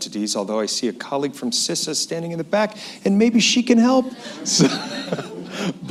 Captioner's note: laughter